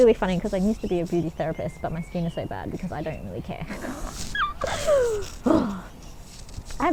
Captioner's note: quirky chuckle